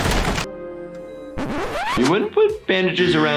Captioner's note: record scratches